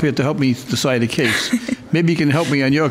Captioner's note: laughing